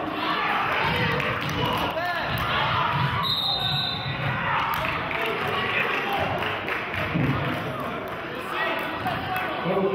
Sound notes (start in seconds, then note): 3.2 whistle blows; 4.6 clapping